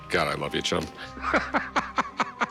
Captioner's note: laughs